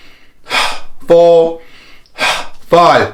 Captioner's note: inhaling and exhaling